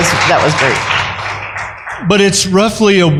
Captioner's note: applause